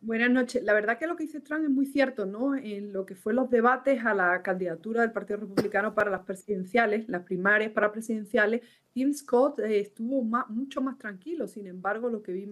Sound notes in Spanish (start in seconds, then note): 4.9 HABLA EN INGLéS